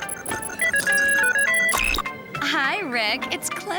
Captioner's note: ringtone